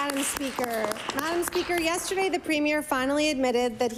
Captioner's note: applause